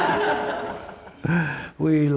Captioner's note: audience laughs